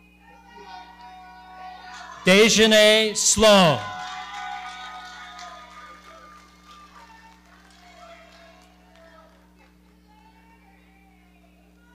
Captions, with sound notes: Dejene Sloan. (audience cheering) - Congratulations.